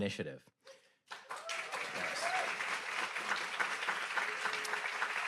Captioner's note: audience applauds